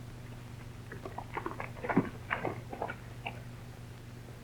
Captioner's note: hooves clatter